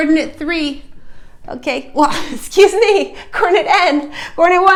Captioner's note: chuckle